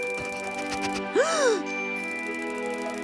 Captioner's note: sniffs; gasps